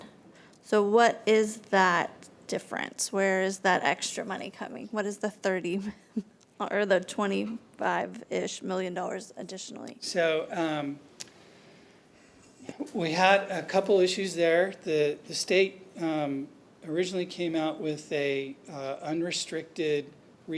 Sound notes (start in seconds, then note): none